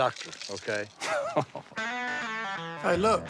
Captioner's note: chuckles